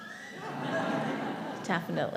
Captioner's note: audience laughing